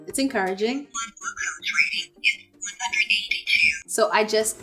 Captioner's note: automated voice